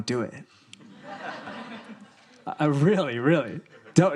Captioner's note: audience laughing